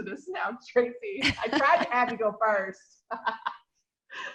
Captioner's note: laughs